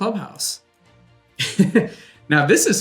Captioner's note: laughs